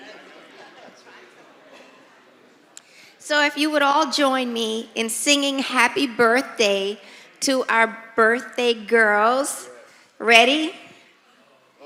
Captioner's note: laughter